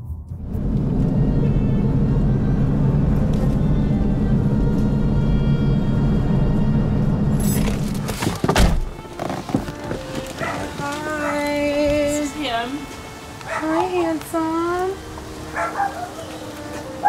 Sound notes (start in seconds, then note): 10.4 barks; 15.5 barks